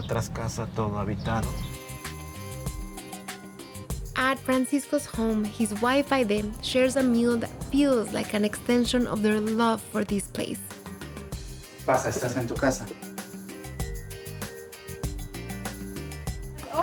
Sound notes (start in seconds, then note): 11.6 speaking Spanish